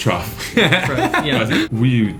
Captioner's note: laugh